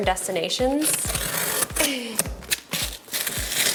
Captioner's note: sighs; knife scrapes cardboard; knife scrapes tape